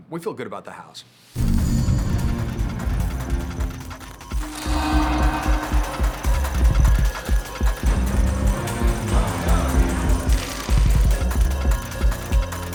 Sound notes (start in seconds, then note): 0.1 alerting music; 7.6 crowd murmuring